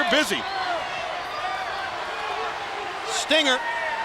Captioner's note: crowd cheering